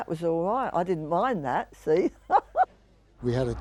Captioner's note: chuckling